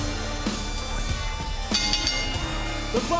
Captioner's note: bell rings